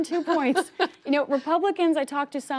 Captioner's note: laughter